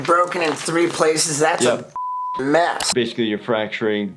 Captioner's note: beep